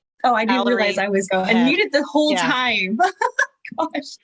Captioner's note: laughter